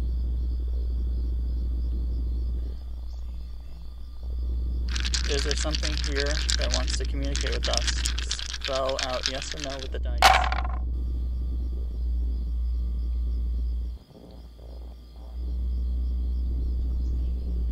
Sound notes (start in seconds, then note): 4.9 dice rattling; 10.4 dice thumping